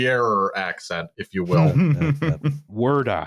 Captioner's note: laughter